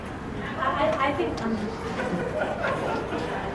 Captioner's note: laugh